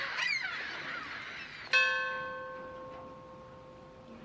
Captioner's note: bell ringing